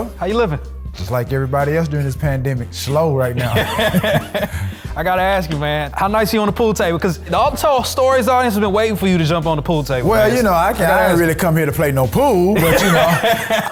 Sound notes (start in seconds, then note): 3.4 laughing